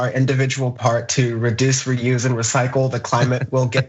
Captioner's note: laugh